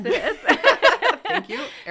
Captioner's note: laughter